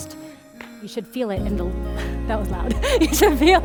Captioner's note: slaps